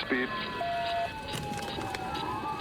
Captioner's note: sirens blaring